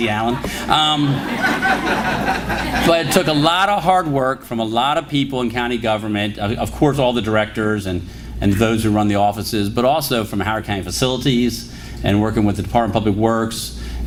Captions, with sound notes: easy, Allan. >>:(LAUGHTER) >>:But it took a lot of hard work from a lot of people in county government, of course, all the directors and those who run the offices, but also from Howard County facilities and working with the Department of Public Works -